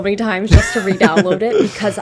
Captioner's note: laughs